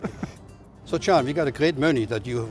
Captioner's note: laughing